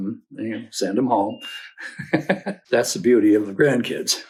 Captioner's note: laughs